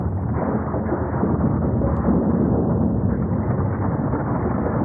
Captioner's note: thunder rumbling